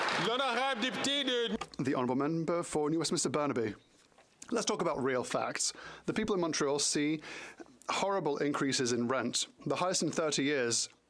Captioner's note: some Applause